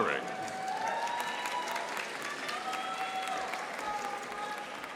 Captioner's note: audience applauding